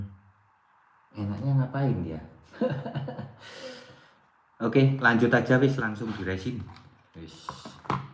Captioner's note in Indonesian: tertawa